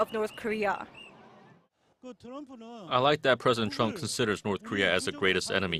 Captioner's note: Korean